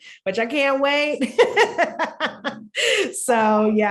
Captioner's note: laughing